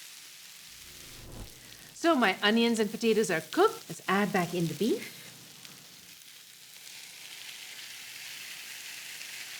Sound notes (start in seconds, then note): 2.8 sizzling loudly